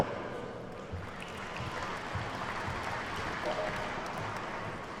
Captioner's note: attendees clapping